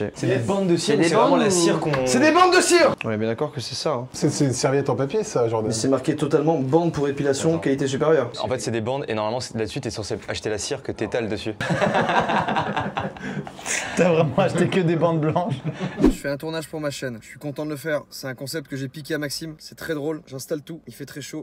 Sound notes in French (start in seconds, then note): 11.6 rires